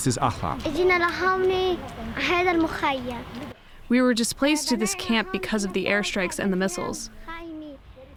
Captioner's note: through translator